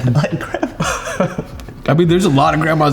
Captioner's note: laughs